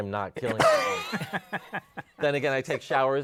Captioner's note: laughter